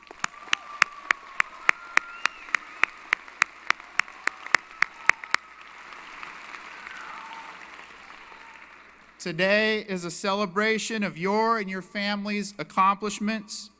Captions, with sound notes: [ Applause & Cheering ] Today is a celebration of your and your family's accomplishments.